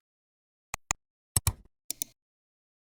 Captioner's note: 3 different clicks